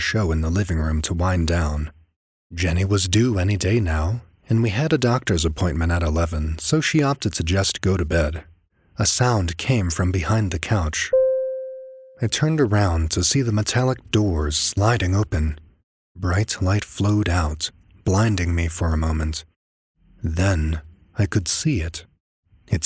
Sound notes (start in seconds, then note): 11.1 ding